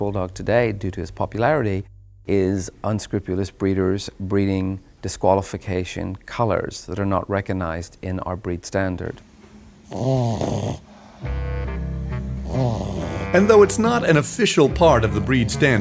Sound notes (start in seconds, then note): 9.2 dog snoring